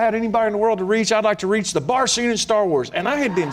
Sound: laughter

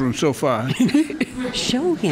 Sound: laughs

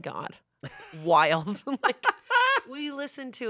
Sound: laughs

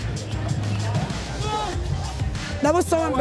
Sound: upbeat music; shouts

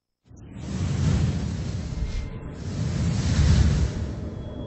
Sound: digital whooshing sounds

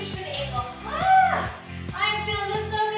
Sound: screams

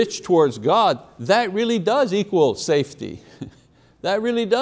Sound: chuckling

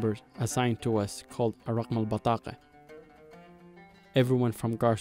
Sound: speaking in foreign language

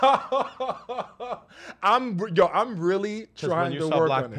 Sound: laughs

